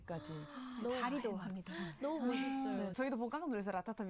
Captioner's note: gasps